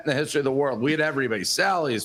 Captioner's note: laughter